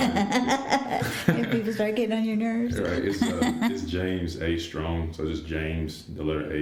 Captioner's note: laughter; laughter